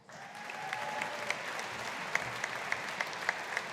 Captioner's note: audience applauding